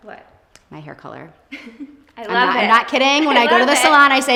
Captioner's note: chuckles